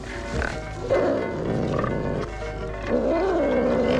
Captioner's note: Buddy growling